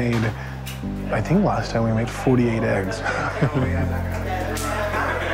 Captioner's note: laughs